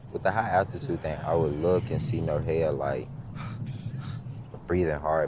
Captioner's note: pants